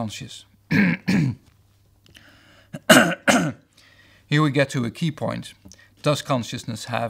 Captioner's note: cough